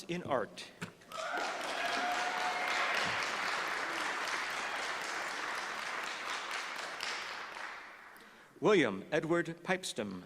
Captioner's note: applause